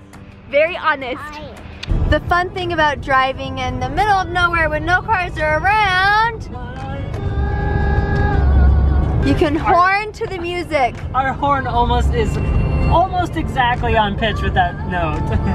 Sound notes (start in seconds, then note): 7.0 horn honks